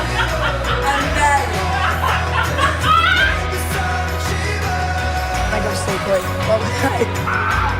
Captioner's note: laughing and cheering; upbeat music